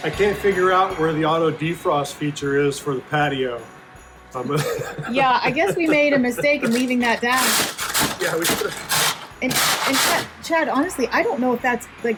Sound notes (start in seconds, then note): 4.4 laughing